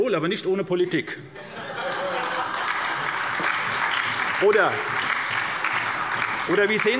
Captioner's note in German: Heiterkeit und Beifall bei der SPD und der LINKEN